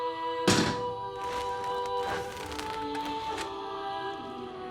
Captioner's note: crust crunching